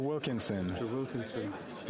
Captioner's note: speaking French